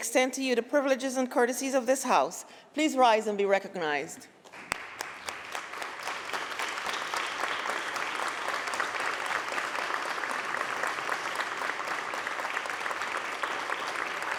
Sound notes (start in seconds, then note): 4.4 applause